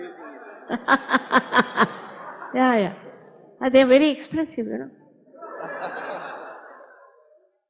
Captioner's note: laughs